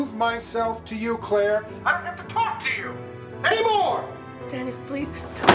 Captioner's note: yelling